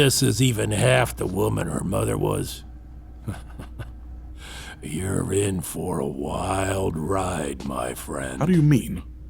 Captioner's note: laugh